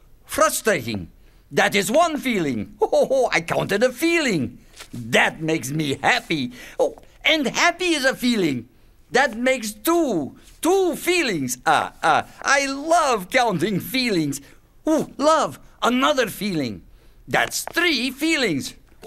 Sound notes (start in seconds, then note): 2.8 chuckles; 11.4 chuckles